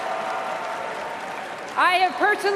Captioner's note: cheers and applause